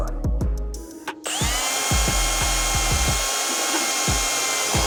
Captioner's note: drill whirring